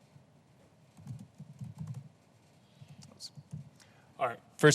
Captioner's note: typing sound